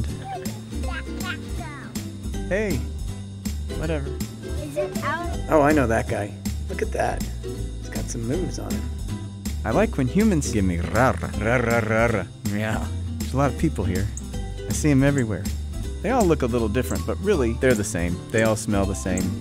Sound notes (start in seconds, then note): 10.7 purring, meowing